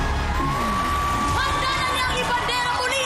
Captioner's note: suspenseful music continues; crowd cheering